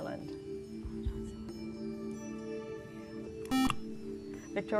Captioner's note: whispering